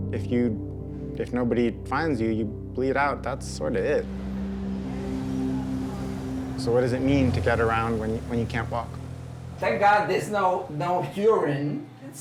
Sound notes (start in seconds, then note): 3.7 Sons de rua